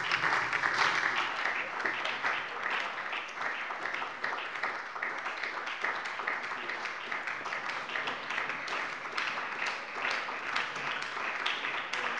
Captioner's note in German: Beifall bei der SPD